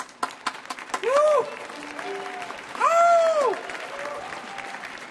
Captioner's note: audience cheering